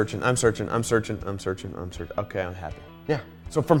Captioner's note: voice drops